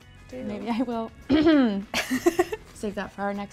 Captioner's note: clearing her throat; laughing